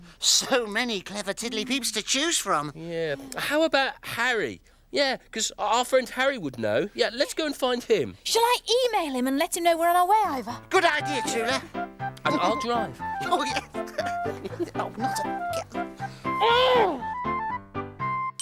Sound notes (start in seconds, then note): 13.1 chuckling